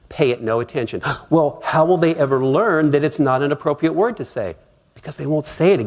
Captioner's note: gasp!